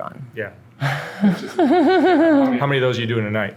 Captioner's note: laughs